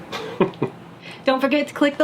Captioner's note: laughing